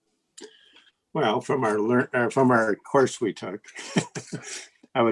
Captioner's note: chuckles